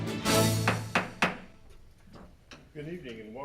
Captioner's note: gavel hammering